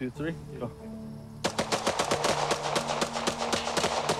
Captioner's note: guns pop